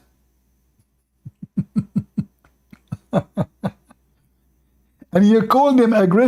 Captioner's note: Ketawa